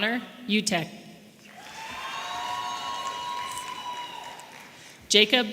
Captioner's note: audience applauding and cheering